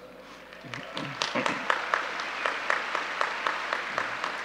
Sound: audience cheering

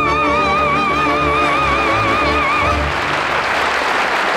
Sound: orchestra plays; audience clapping

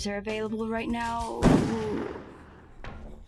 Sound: distant gunshot

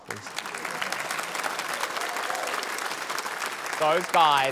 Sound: applause

